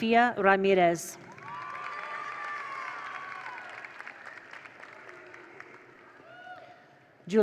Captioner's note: attendees applaud; attendees cheer